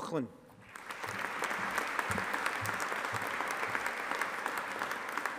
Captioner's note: audience applauding